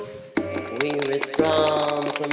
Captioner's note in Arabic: تصفيق